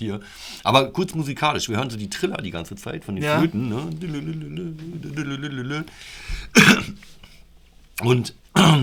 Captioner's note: coughing